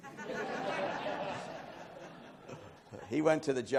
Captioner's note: laughing